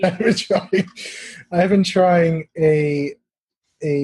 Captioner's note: laugh